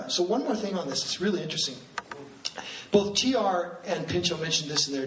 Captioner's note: none